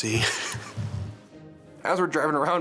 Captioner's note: laughing